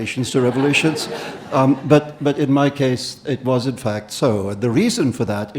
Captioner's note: audience laughing